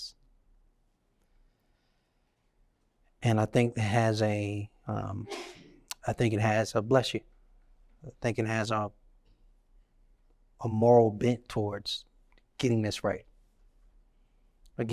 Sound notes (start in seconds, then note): 5.2 sneeze